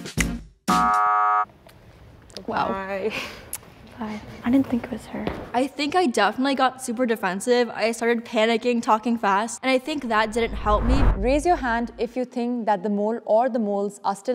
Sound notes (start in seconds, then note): 0.7 buzzer sounds